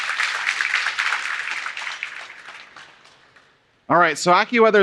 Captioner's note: applauding